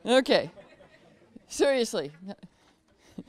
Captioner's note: laughter